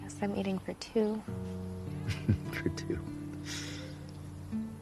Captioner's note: chuckling